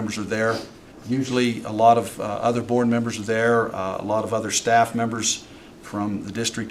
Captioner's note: snorts